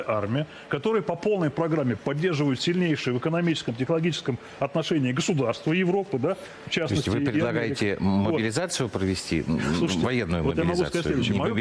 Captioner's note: speaking non-english